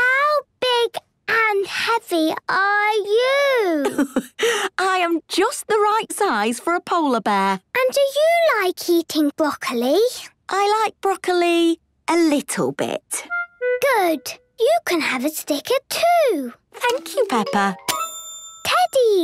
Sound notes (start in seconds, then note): 4.4 laughs